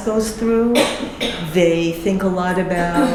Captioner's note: coughing